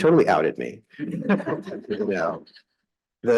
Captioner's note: audience laughing